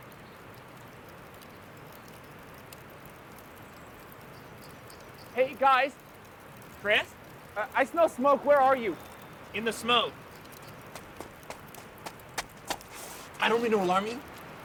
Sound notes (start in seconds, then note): 10.9 footsteps